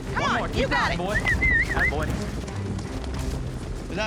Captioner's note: whistling